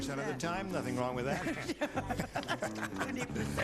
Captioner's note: laughing